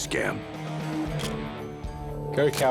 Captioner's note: camera shutter click